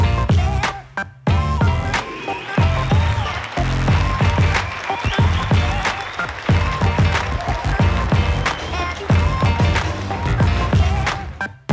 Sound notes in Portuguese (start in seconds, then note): 2.0 aplausos